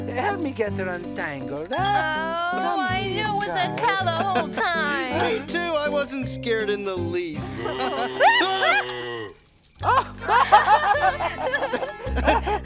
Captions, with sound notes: Help me get her untangled, huh? - Oh, I knew it was a cow the whole time. - Me too, I wasn't scared in the least. (cow mooing) (both screaming) (all laughing)